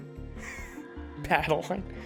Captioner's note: chuckles